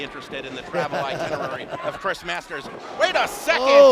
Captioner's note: laughs